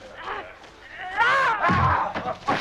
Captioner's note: Hundra grunts; guard groans